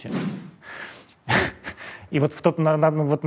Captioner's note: chuckles